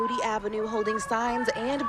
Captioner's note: chanting